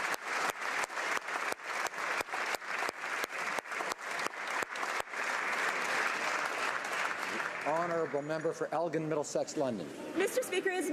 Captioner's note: applause